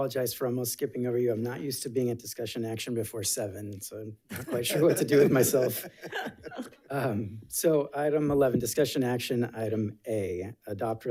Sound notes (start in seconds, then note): 4.3 board members laughing